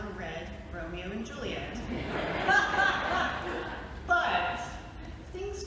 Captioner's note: laughter